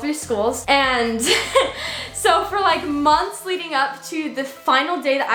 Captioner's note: chuckles